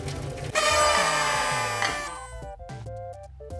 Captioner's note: party horn and cheering